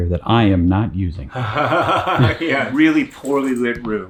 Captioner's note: John laughs